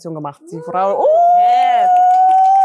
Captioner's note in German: Gejubel